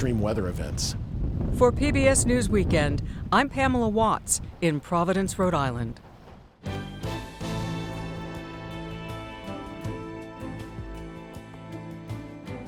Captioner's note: voice-over